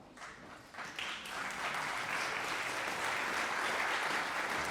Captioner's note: audience applauding